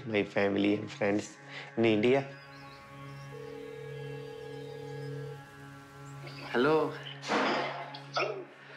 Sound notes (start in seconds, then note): 2.3 birds twitter, line rings